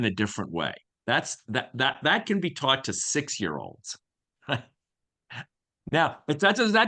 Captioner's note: chuckles